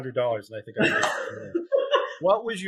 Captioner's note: laughing